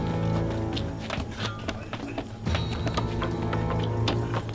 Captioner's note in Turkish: Kütük yontma sesleri